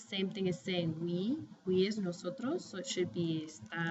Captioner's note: spanish